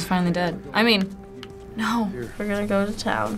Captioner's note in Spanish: Sarcasticamente